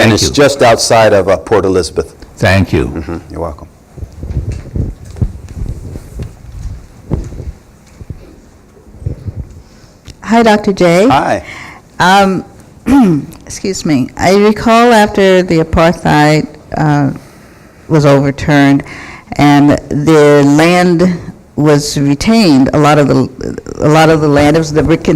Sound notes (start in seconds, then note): 12.9 clears throat